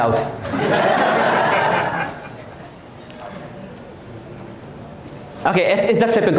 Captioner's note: audience Laughing